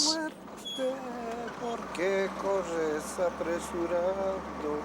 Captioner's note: Spanish spoken audio